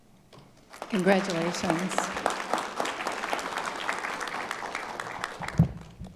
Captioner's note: audience applauding